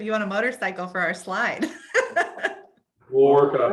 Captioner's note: laughs